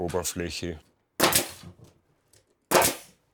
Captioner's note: banging